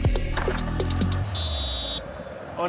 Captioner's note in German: Pfiff